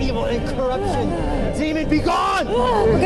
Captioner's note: demon groans